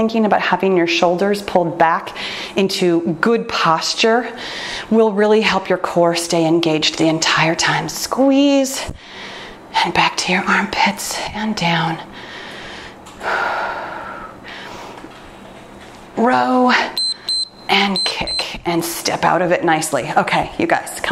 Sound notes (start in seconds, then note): 16.9 timer beeps